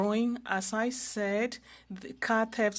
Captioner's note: speaking french